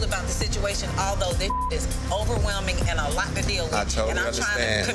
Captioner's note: beep